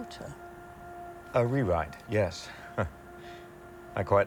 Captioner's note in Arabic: ضحكة مكتومة